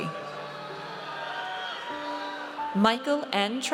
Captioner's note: audience cheers